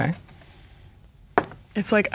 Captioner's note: dice rolling